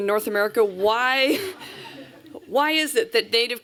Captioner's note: laughter